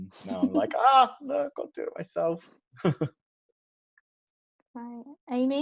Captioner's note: laughs